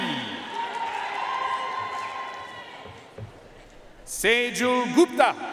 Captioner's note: audience cheering and applauding